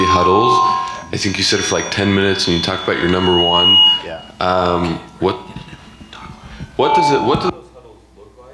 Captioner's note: microphone cuts out